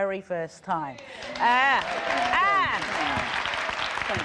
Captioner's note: applause